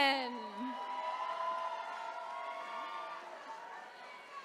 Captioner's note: attendees cheering